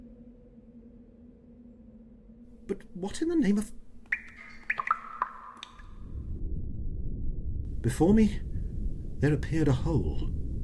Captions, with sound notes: But what in the name of...? [Water splashing] Before me, there appeared a hole...